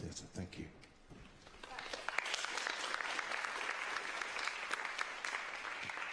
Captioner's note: applause